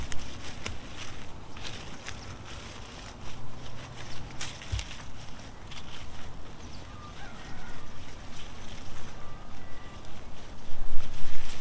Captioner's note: clipping sounds